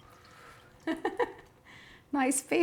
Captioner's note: chef laughs